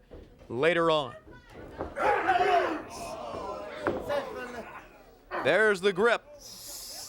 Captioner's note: crowd chatter